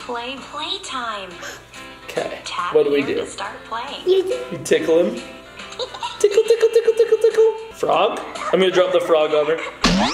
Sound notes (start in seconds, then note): 1.4 gasp; 5.7 baby giggling; 9.8 boing